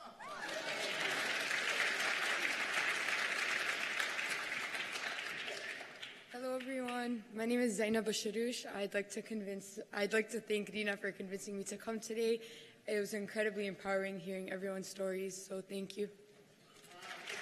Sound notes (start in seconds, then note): 4.4 cheers and applause